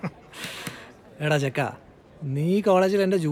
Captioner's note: laughing